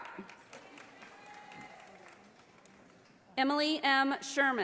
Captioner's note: audience applauding